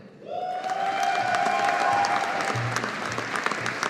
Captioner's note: audience applauding